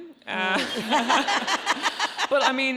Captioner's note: audience laughs